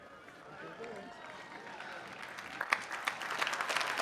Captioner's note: applause